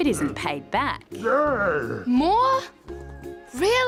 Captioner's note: groans